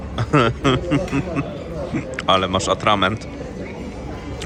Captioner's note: laughter